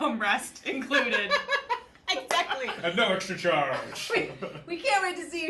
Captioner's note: laughs